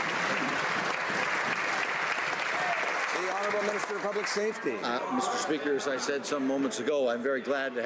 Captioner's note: some Applause